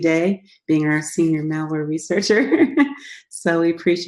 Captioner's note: laughs